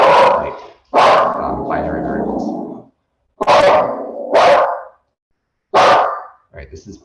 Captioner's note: dog barks; dog barks